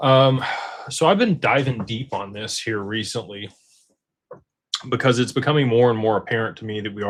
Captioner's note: sighs